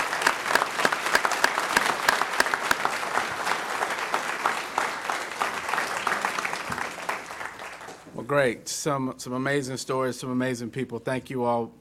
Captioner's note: applause